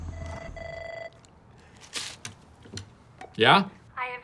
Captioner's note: phone ringing